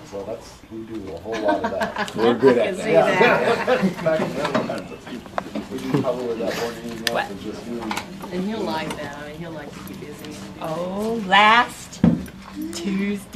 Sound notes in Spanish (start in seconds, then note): 1.3 Risas; 2.7 Conversaciones de fondo